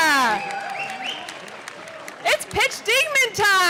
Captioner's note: audience clapping